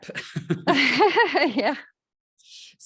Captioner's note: laughter